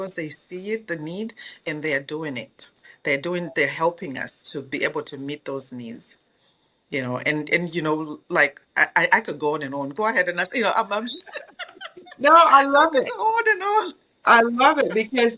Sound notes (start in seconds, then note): 11.0 laughs